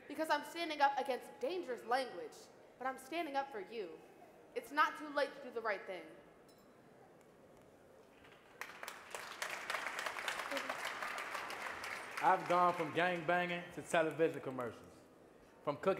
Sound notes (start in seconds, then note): 8.2 audience clapping